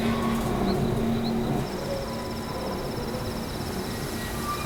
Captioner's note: crickets chirping